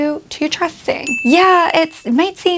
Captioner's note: bell dings